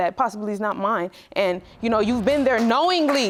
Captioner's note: audience applauding